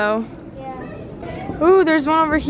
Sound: child's Voice

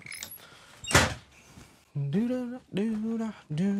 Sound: door slamming

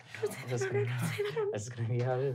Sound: nervous muttering

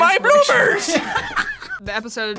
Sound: laughs

